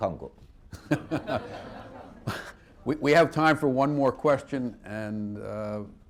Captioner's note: laughter